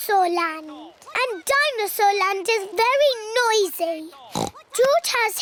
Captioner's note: oinks